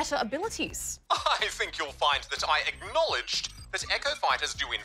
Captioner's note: chuckles